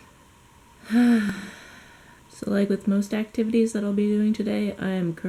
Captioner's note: sigh